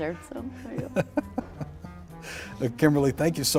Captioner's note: laughs